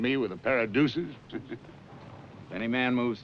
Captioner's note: chuckles